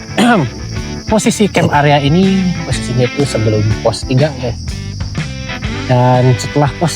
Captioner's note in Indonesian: berdehem